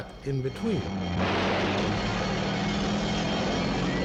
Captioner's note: gunshot; alarm Continues Ringing; shouting